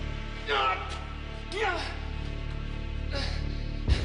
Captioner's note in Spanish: Quejidos